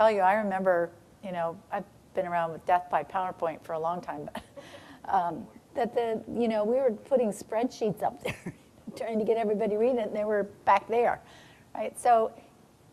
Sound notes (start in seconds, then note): 4.8 chuckling